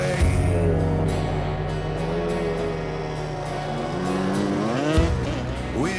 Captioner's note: motorcycle engine